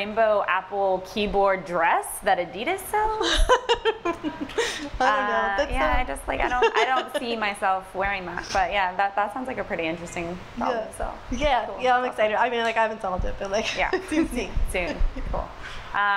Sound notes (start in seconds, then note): 6.4 laughs